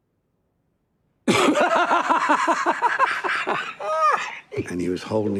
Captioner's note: maniacal laughter